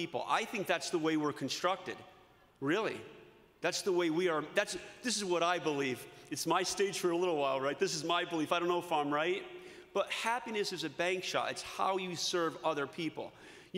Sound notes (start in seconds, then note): none